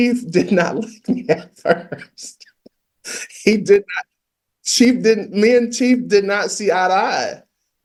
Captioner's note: laughs